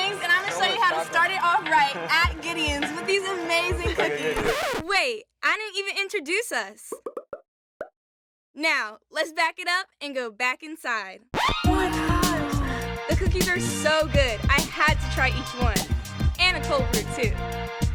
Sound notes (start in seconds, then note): 3.6 record scratch; 7.0 bubbles pop; 17.7 upbeat music